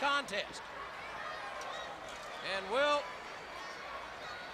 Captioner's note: crowd chatter